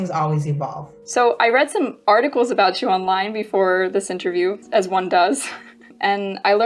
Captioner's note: laughs